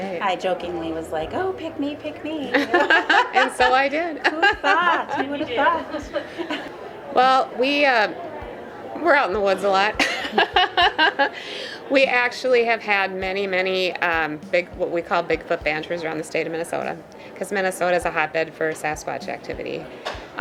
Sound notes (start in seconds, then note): 2.5 all laughing; 9.9 laughing